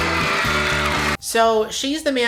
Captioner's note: audience cheers